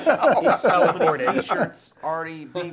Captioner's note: laughter